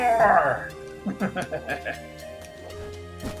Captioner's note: laughs